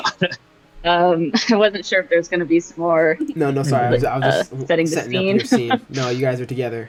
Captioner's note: laughter